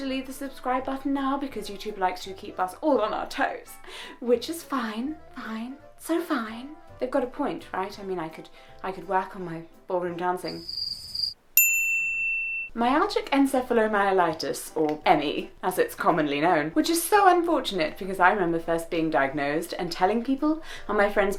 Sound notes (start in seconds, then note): 10.4 crickets fx; 11.6 ding